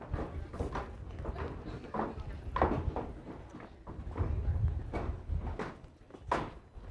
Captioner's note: none